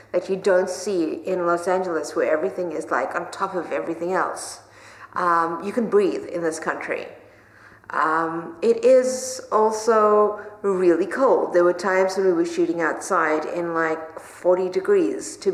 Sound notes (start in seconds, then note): none